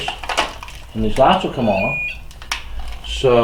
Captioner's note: machine beeps